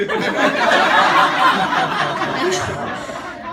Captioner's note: audience laughing